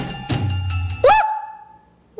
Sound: liza screams

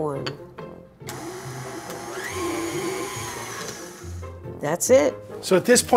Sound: mixer whirling

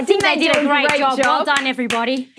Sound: clapping

